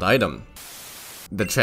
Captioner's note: static